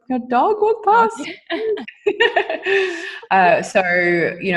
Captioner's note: both laughing